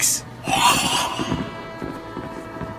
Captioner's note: scream from another part of the house